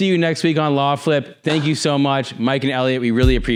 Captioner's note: claps hands